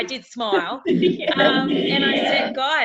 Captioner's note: laughing